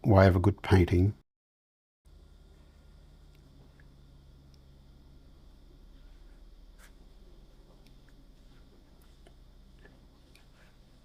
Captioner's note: silence